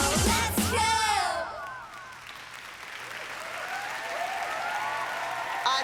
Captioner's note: applause